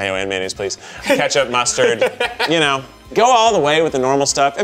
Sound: laughs

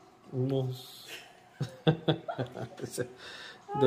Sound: laughs

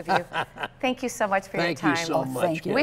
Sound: laughter

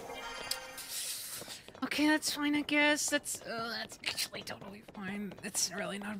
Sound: sharp Inhale

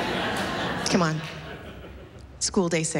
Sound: laughter

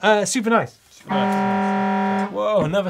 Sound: horn blaring

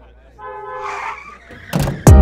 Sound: car screeching, car door opening

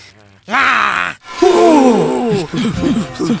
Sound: Joe screeches; all scream

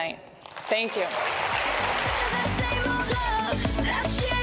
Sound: applause

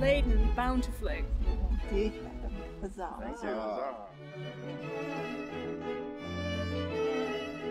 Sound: background conversations

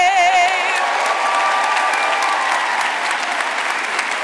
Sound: audience clapping

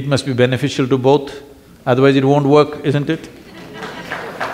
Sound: applause

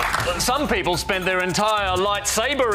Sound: applause

